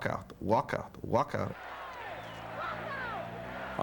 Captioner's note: chanting